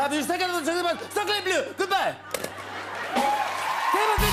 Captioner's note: French accent; cheers and applause